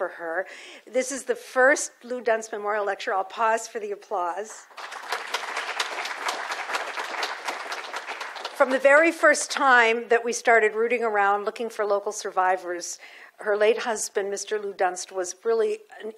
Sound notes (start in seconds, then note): 4.7 audience applauses